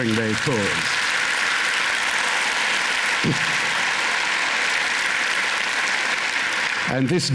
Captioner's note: applause